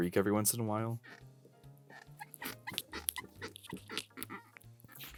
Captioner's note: chair creaking